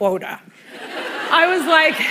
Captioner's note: laughter